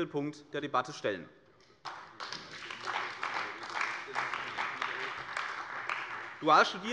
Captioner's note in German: Beifall bei der CDU und bei Abgeordneten des BÜNDNISSES 90/DIE GRÜNEN